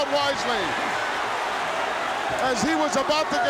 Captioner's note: crowd cheering